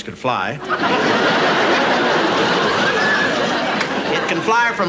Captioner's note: audience laughing